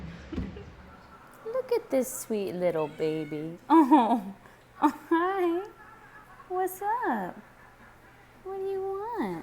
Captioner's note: kitten meow